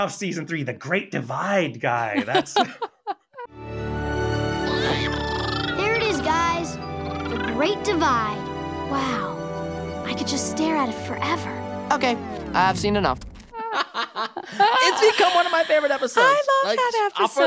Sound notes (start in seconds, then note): 2.1 laughing; 4.6 chittering; 13.6 laughing